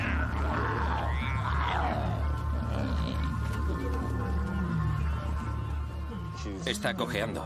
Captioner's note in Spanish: grito